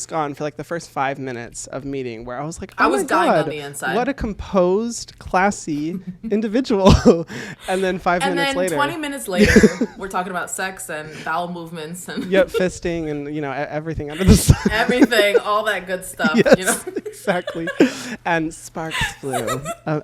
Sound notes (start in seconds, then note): 14.1 laughs; 18.9 both laugh